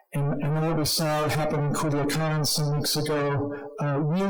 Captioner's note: speaking foreign language